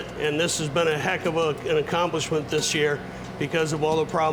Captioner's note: none